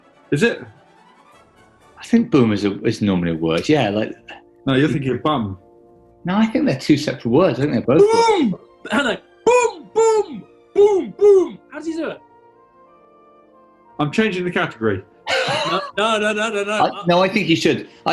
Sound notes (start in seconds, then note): 15.2 laughing